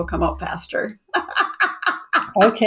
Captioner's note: laughs